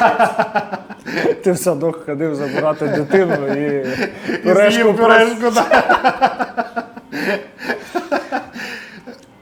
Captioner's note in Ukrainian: сміх; сміх